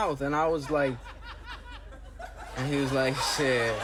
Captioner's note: audience laughs